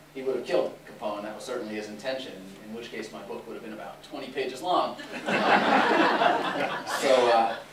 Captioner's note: laughter